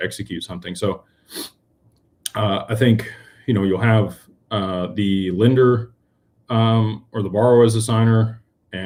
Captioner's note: snorts